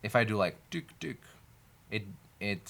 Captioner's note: imitates clicking sound